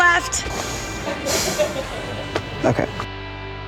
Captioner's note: sighing